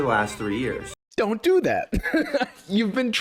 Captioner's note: laughs